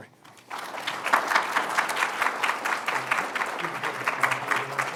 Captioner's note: applause